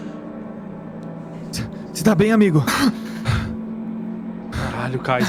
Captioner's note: panting